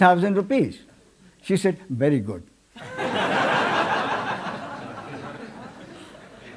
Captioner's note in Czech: smích